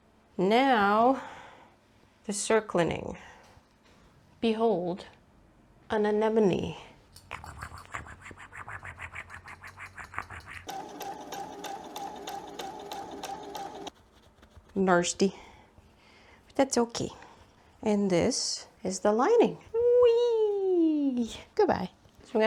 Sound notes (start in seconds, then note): 7.2 an anemone is trying to eat you noises; 10.6 sewing machine noises